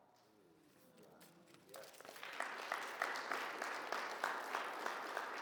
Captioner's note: audience applauds